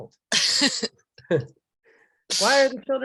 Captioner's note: laughing